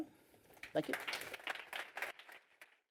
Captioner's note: applause